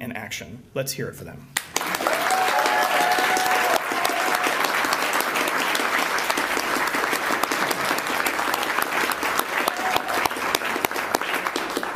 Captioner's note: applause